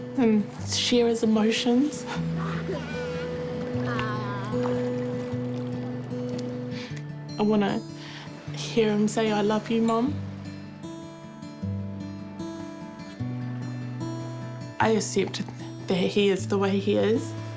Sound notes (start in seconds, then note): 3.8 babbles; 6.6 sniffles; 11.2 gentle guitar music